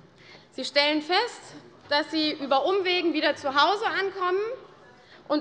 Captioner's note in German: none